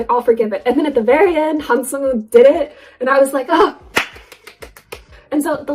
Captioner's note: claps